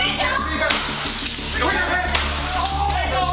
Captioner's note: beanbag gun buzzing